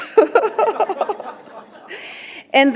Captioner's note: laughter